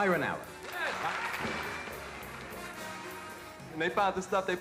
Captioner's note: audience applauding